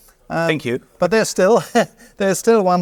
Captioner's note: laughs